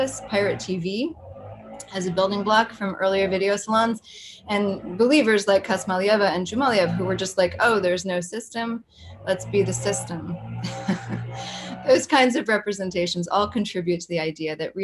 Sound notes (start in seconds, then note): 10.6 chuckles